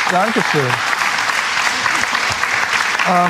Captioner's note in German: Applaus